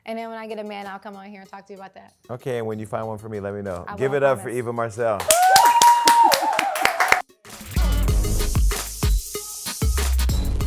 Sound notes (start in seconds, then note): 5.2 cheering